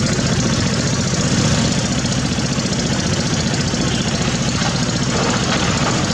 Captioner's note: diesel Engine Sound